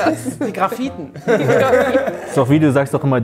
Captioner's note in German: Lachen